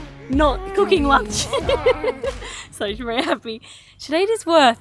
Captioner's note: baby giggles